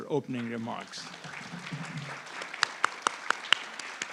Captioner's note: audience applauds